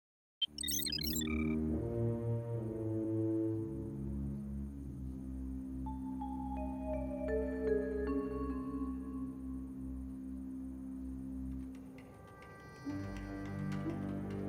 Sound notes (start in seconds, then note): 0.4 beeping